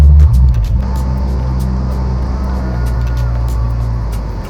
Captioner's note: plane engine; peaceful music